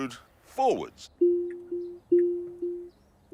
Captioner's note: beeping